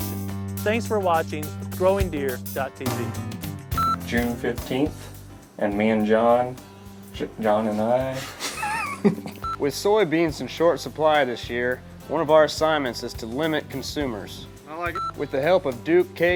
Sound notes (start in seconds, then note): 8.2 laughter